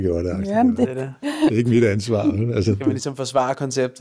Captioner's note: chuckles